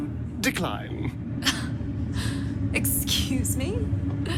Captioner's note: scoffs